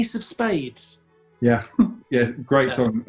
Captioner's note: laughs